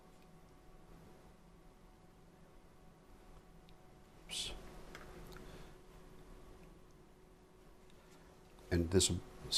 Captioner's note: silence